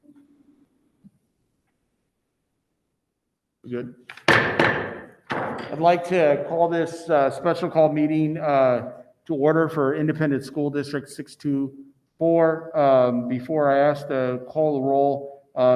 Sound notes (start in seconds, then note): 4.1 gavel Knocking